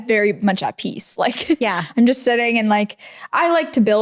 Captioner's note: laughs